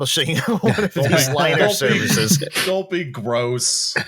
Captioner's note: laughing